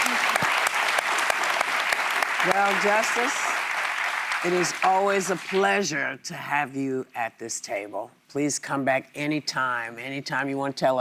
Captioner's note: applause